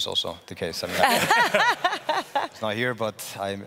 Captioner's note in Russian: смех